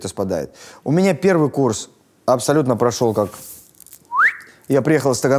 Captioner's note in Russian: свистит